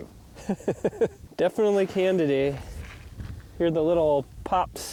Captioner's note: laughs